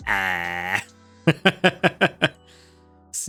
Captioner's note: laughs